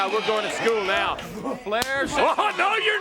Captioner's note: crowd cheering